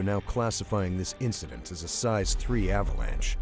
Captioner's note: voiceover